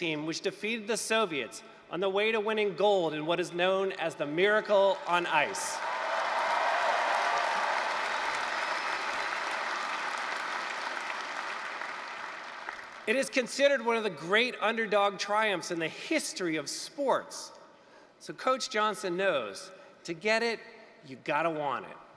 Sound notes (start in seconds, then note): 5.4 applause, cheering